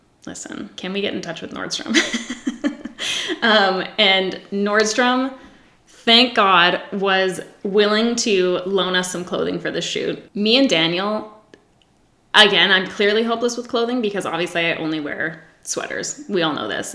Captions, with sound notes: listen, can we get in touch with Nordstrom? (laughs) And Nordstrom, thank God, was willing to loan us some clothing for the shoot. Me and Daniel, again, I'm clearly hopeless with clothing because obviously, I only wear sweaters, we all know this,